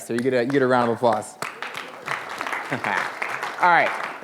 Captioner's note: applause